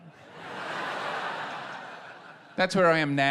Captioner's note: laughter